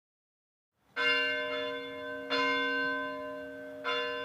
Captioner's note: bell ringing